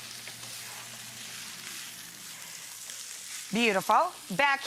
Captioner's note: pan sizzling